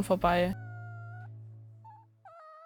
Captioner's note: cat meows